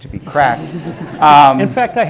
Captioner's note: audience laughing